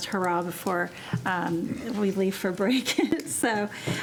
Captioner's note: chuckling